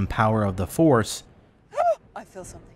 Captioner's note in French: exclamation!